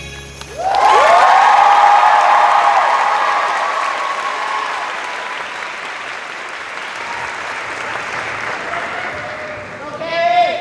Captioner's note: cheers and applause